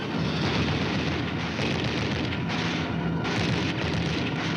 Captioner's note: guns firing